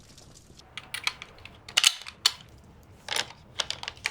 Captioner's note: gun clicking